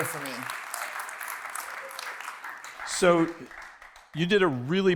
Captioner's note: applause